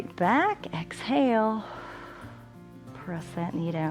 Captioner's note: exhales